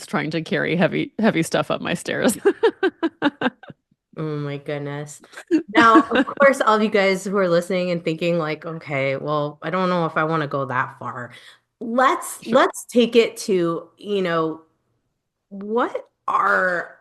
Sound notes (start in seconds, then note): 2.3 laughs